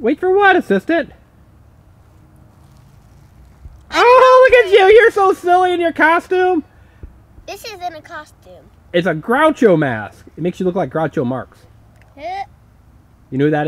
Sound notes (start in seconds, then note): 0.4 voiceover; 9.2 voiceover; 13.5 voiceover